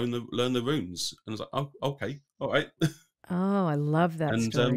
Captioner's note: laughs